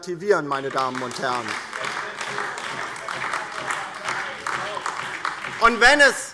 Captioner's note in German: Beifall DIE LINKE - Zurufe AfD